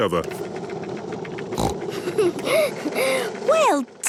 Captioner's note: giggles, snorts